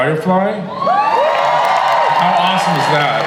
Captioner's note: crowd cheers